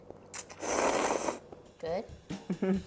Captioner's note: slurping